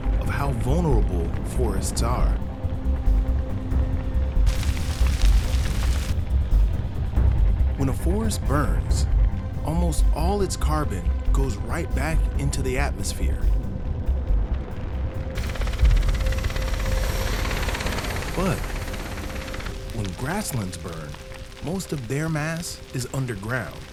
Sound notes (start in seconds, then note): 4.3 fire crackling; 15.3 helicopter whirring